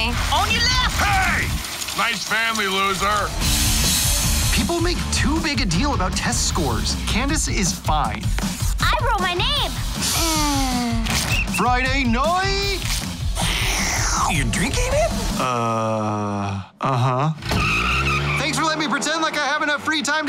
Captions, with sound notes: On your left. Hey! Nice family, loser. People make too big a deal about test scores. Candace is fine. I wrote my name. [SIGHS] Friday night! You're drinking it? Uh, uh-huh. [TIRES SQUEALING] Thanks for letting me pretend like I have enough